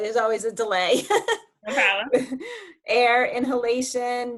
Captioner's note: laughing